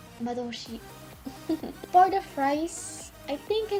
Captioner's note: giggle